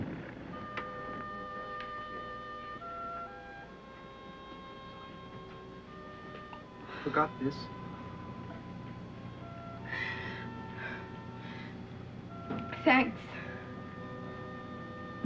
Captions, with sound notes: (gentle music) Forgot this. - (sighing) Thanks.